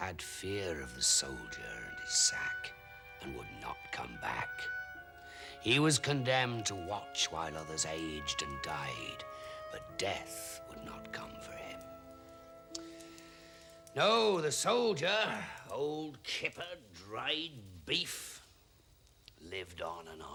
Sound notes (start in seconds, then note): none